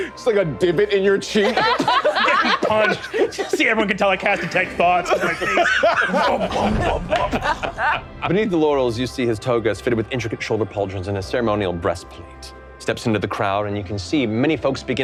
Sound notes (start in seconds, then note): 1.3 all laughing